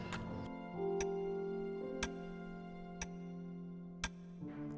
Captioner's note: ticking